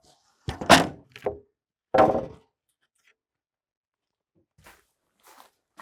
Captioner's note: wooden planks clanking